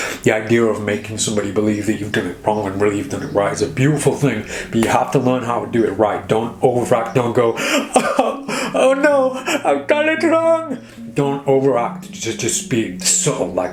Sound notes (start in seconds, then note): 7.4 fake sobs